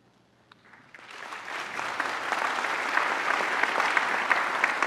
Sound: applause

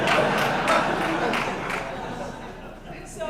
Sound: laughter

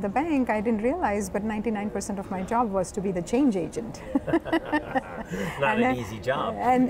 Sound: laughing

